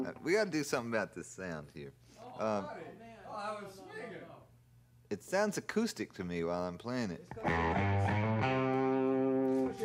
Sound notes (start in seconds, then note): 2.3 indistinct chatter